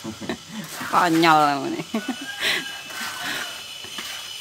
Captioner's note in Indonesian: tertawa